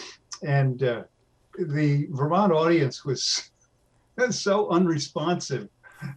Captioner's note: laughs